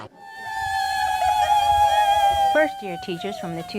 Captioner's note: cheering